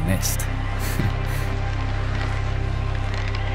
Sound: chuckles

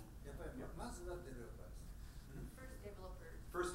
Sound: speaking in foreign language

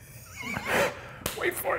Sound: laughing

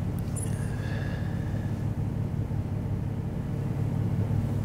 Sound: exhales

